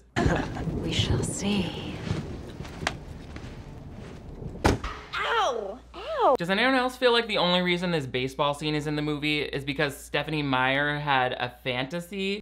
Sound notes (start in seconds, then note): 2.8 laughing; 4.4 head smashing